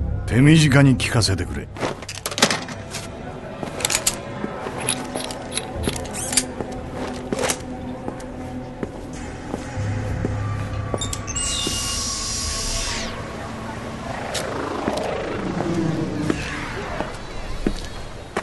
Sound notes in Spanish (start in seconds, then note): 10.9 se abre la puerta; 13.3 sonido de la calle